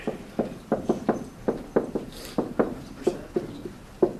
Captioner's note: marker thudding